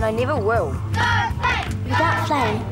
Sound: crowd

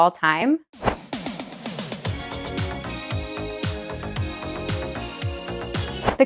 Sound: whooshing; upbeat music

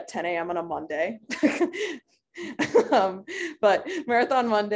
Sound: laughing

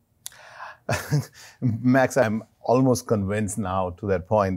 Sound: laughs

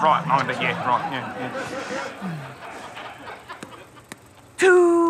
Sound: audience laughter

